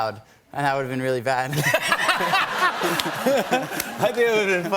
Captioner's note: laughter